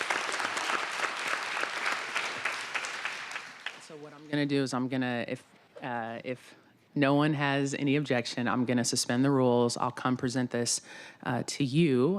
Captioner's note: applause